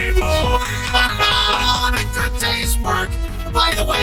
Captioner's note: both laugh